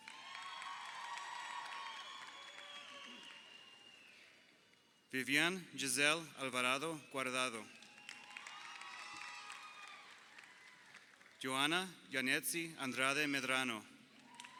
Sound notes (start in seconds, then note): 0.0 crowd cheering; 7.1 crowd cheering